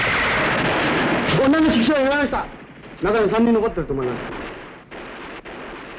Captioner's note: speaking japanese